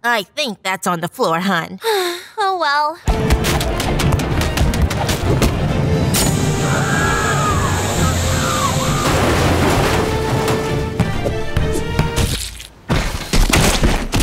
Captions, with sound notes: - I think that's on the floor, hun. (girl sighs) - Oh well. (punches thud) (explosion bangs)